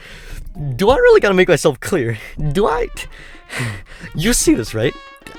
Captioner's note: heavy breathing; exhales